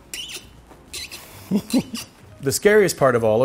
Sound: chuckles

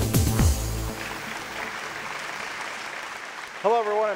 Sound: audience claps

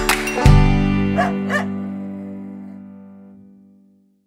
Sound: Bingo barks

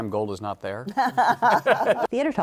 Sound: laughter

